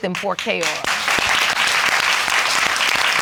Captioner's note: audience applauding